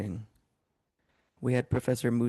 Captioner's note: speaking French